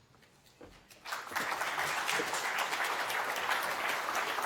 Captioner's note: audience applauds